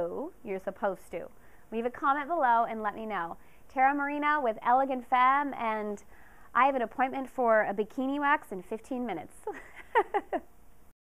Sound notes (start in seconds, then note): 9.4 laughter & waving goodbye